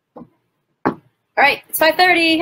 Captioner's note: thud